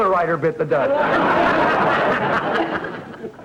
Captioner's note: audience laughter